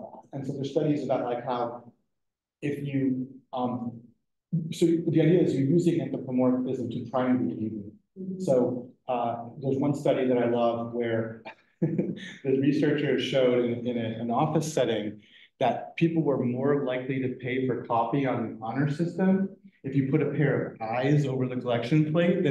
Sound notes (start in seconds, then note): 11.8 laughs